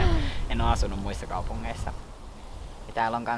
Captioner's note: wind goes swoosh